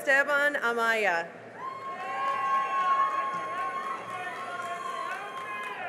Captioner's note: cheering and applause